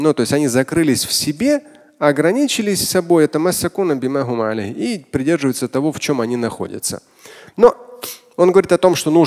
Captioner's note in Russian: Говорит на арабском